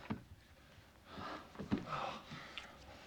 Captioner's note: sighing